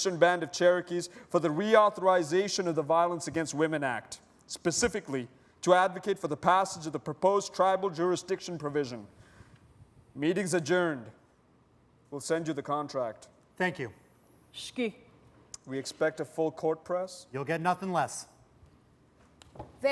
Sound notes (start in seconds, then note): 14.5 non-english